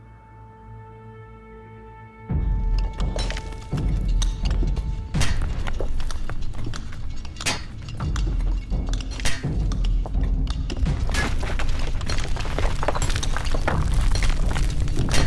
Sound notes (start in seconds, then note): 0.2 tense music; 2.7 hammering; 11.3 rumbling getting louder on other side